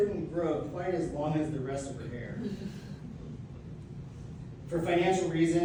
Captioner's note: laughter